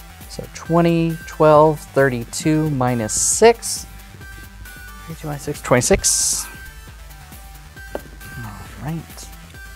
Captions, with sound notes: So, 20, 12, 32 minus 6. 32 minus 6, 26. (pen clatters) All right.